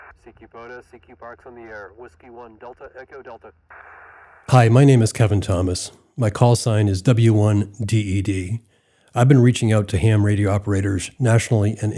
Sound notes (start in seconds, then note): 4.5 radio static hissing